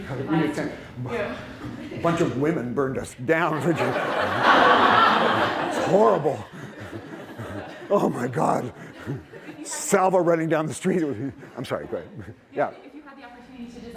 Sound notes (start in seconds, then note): 3.5 laughter